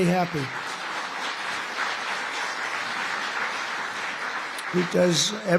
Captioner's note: applause